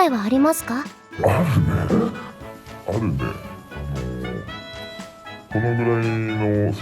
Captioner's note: laughs